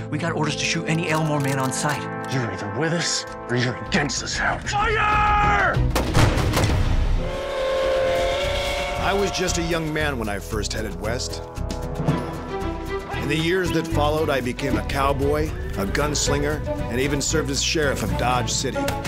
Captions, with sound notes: WE GOT ORDERS TO SHOOT ANY ELMORE MAN ON SIGHT. YOU'RE EITHER WITH US, OR YOU'RE AGAINST US. FIRE! [GUNSHOTS] [TRAIN WHISTLE] BAT, V/O: I WAS JUST A YOUNG MAN WHEN I FIRST HEADED WEST. IN THE YEARS THAT FOLLOWED, I BECAME A COWBOY... A GUNSLINGER... AND EVEN SERVED AS SHERIFF OF DODGE CITY,